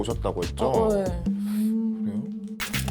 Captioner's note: confused sound effect